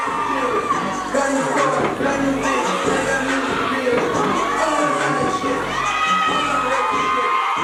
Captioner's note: crowd cheers; crowd cheering; hip hop music